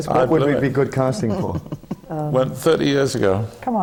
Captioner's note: laughs